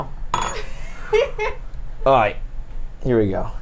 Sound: laughs

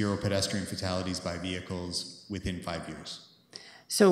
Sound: none

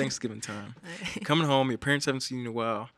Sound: chuckles

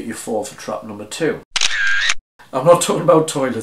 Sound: camera clicking

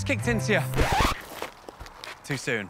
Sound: record scratches

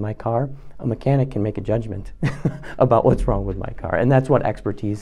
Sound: laugh

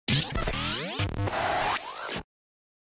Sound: static SFX

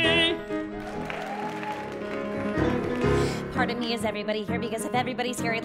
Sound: applause

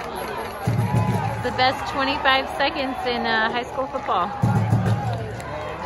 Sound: crowd cheering and yelling

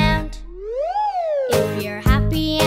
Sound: whistle whooshes

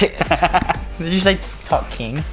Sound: laughing

